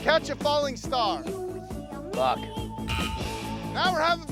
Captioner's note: buzzer sounds